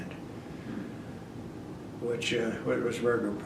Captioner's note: none